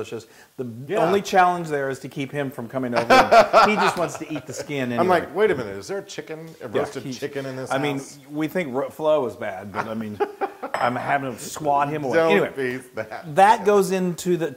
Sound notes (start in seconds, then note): 3.0 laugh; 9.6 laugh